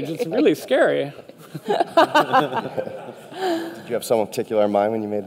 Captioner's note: audience laughter